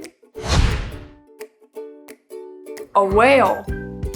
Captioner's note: screen whooshes